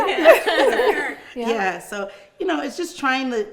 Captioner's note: all laughing